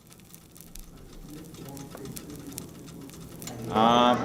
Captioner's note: cheese sizzling